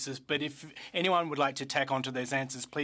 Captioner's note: speaking French